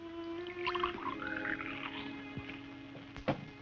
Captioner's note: water sloshes